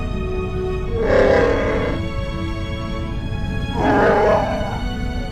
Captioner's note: growl and roar!